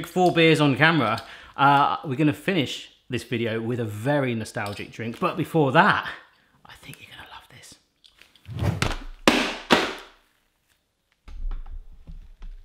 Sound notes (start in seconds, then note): 9.4 banging noise